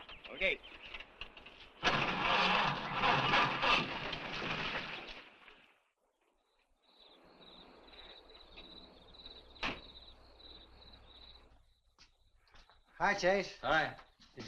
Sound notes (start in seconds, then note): 0.7 engine cranks; 6.0 crickets chirping